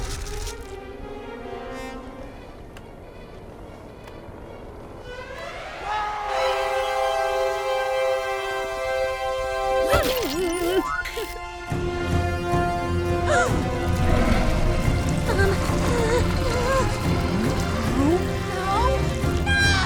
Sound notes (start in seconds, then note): 9.9 monster growling; 15.1 crying